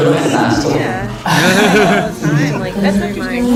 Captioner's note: haha